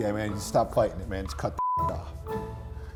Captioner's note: beep